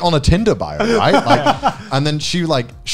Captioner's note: laughing